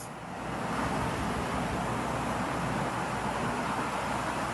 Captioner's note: traffic streaming